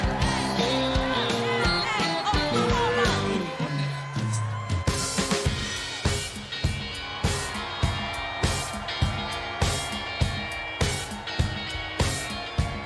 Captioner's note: cheers and applause